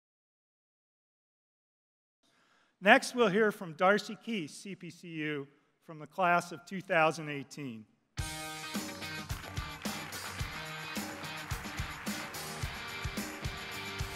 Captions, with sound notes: Next we'll hear from Darcy Keith, CPCU from the Class of 2018. [APPLAUSE]